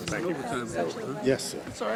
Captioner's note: people chatting